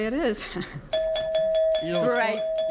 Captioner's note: bell rings